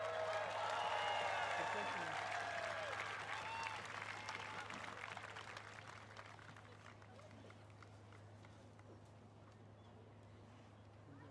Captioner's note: cheers and applause